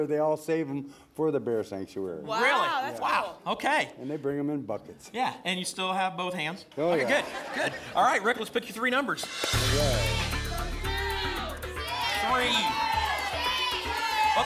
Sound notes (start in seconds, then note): 9.8 audience shouting numbers